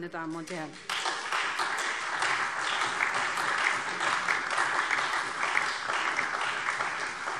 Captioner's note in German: Beifall SPD, Freie Demokraten und DIE LINKE